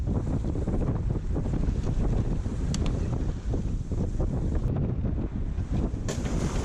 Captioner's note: wave and sea sounds